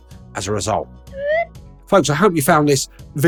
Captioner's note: character whistling